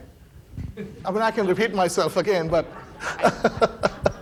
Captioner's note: laughs